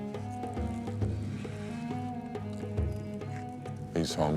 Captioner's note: bear chewing